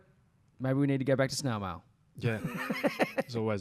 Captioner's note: laughs